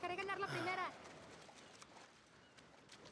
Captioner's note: footsteps in water